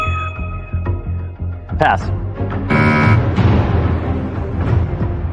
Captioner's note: buzzer sounds